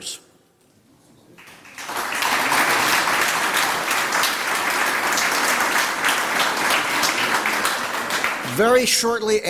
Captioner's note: applause